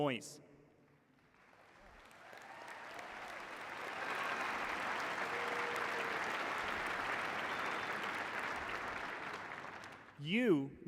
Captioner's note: cheers and applause